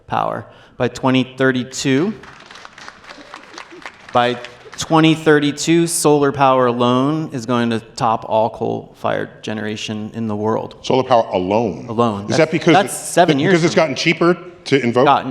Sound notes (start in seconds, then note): 1.9 applause